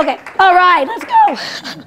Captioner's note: applause